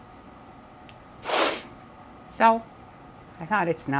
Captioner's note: sniff